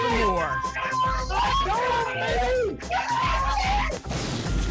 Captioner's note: cheering continues; thunder